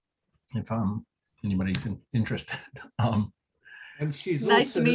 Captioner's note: chuckles